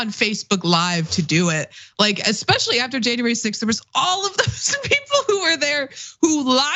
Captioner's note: laugh